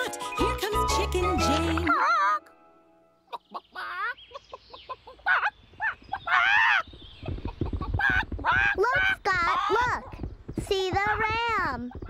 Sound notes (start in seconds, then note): 1.6 Chicken Jane squawks; 5.4 squawking in alarm